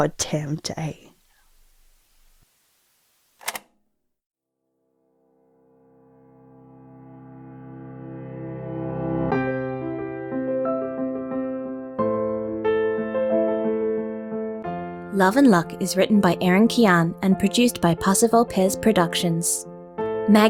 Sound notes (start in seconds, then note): 3.4 click